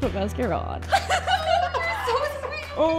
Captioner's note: laughing